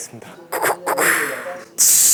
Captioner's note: cuckoo, cuckoo; fizzzzzz